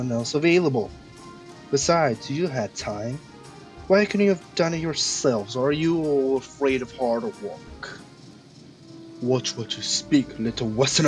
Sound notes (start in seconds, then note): none